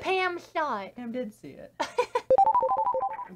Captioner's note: chuckles